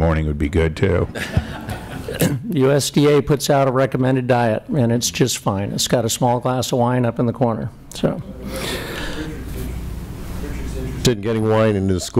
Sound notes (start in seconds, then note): 1.1 laughter